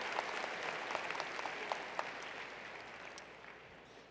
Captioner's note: applause